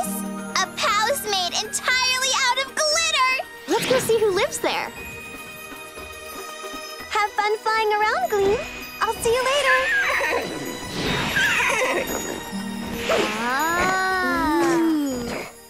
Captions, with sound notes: A palace made entirely out of glitter. Let's go see who lives there. Have fun flying around, Gleam. I'll see you later. [whinnying] -Ahh! -Ooh!